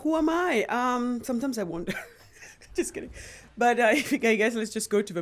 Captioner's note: chuckles